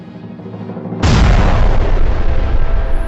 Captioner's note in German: Pistole geschossen zu Spielbeginn